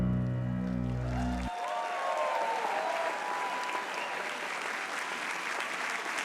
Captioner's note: audience cheering and applauding